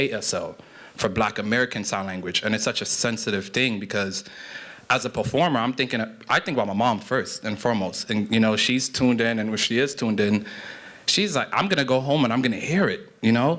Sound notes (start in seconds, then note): none